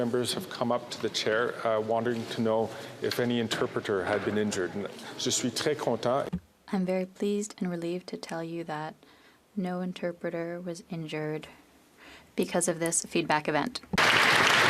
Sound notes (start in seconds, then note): 9.2 speaking French